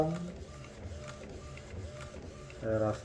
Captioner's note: printer machine sound